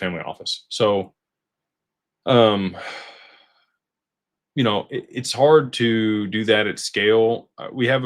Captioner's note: sighs